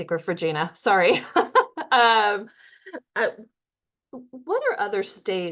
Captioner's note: laughing